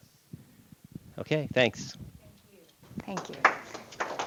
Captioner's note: audience applause